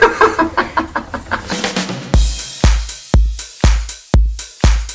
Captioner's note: laughing